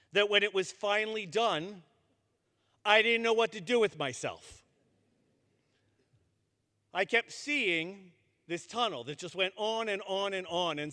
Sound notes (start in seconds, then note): none